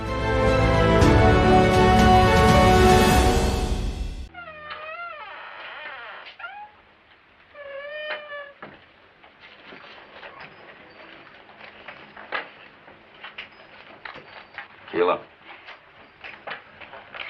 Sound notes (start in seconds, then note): 4.2 door creaks